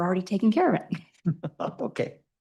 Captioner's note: chuckles